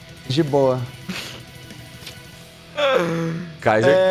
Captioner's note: laughs